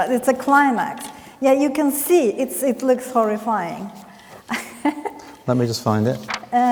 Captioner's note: laughs